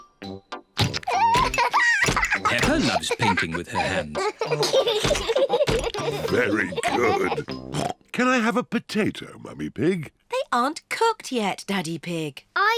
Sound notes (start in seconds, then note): 1.0 laughs; 4.6 both laugh